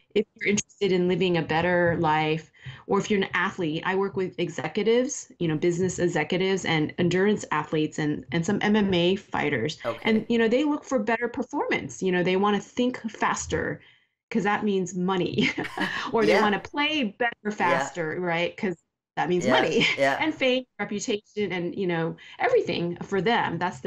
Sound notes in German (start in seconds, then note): 15.5 Beide Frauen lachen